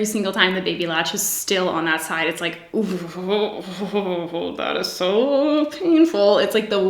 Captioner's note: groans